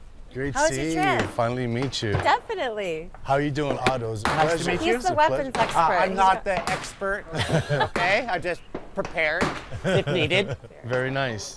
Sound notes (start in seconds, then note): 5.5 echo; 7.3 laughter; 8.0 echo; 9.7 laughter; 9.7 echo